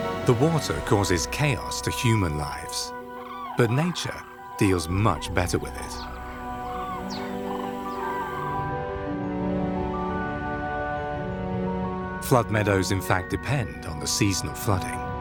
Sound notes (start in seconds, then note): 6.8 birds screeching; 10.7 gentle music